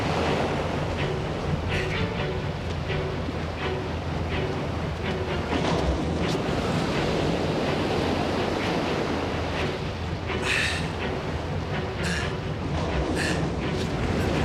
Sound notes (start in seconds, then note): 10.4 panting